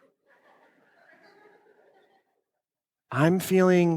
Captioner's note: audience laughs